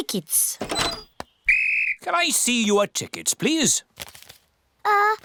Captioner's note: blows whistle